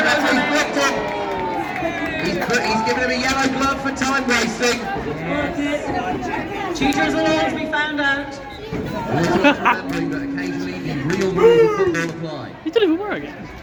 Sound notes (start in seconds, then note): 9.1 laughter